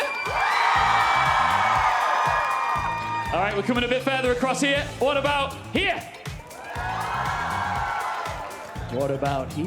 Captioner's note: cheers and applause